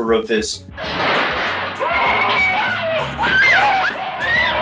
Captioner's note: woman screaming